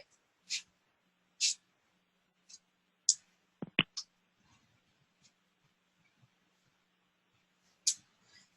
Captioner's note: pause